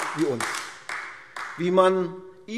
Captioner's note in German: Beifall AfD